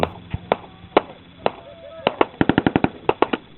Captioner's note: guns firing